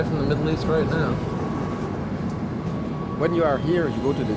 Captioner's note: speaking English